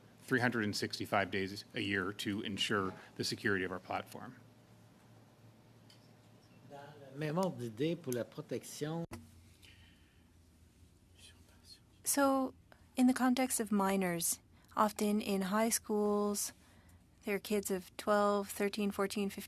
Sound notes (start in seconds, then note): 10.7 speaking French